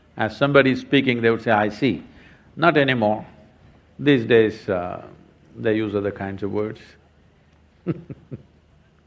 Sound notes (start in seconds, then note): 7.9 laughs